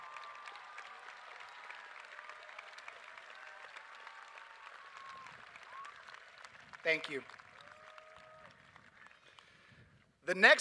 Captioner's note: applause